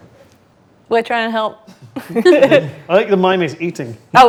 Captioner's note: laughs